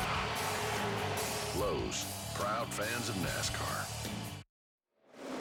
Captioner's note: tires screech, cheers and applause